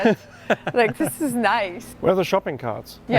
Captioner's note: laughs